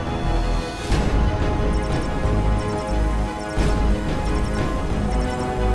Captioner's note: bike sounds warning tones regarding air toxicity levels